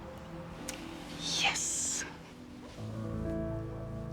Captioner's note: whispers